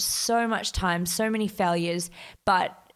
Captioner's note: none